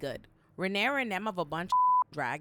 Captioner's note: beep